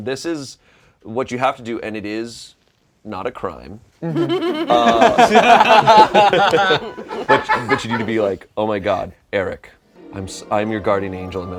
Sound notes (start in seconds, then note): 4.0 laughter; 9.9 heavenly music